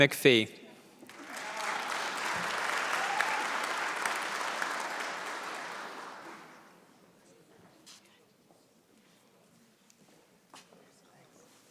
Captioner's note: applause